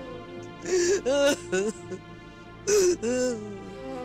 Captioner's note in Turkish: Hayme ağlıyor